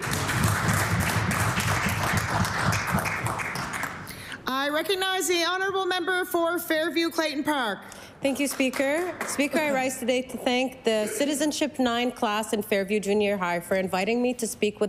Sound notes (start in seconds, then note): 4.8 applause